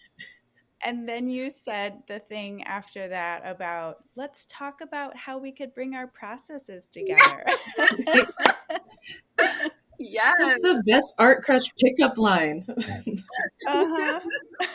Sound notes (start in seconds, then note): 9.7 laughs